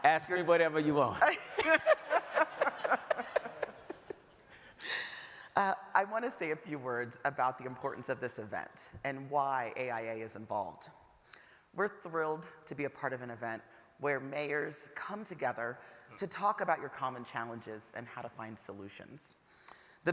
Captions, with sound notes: - Ask whatever you want. (audience laughing) - I wanna say a few words about the importance of this event and why AIA is involved. We're thrilled to be a part of an event where mayors come together to talk about your common challenges and how to find solutions.